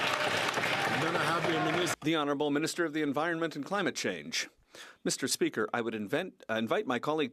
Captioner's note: some Applause